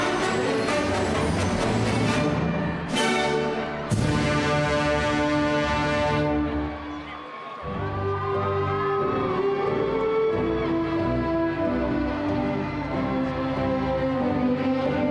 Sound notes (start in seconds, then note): 7.2 cheerful classical music; 8.1 crowd cheering